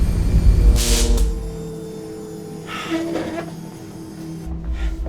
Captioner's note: electric error